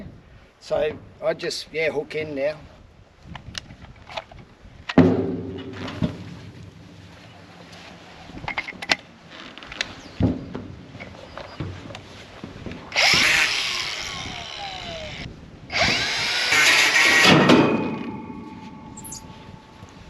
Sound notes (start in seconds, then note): 9.7 grinder whirring